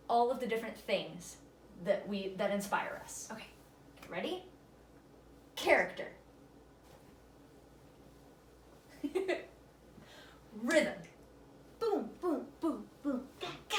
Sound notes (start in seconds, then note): 8.9 laughter